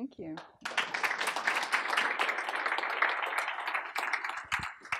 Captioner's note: applause